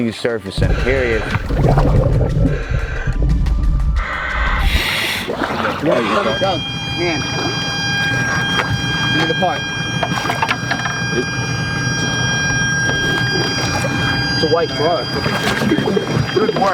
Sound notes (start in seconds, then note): 8.0 machine beeping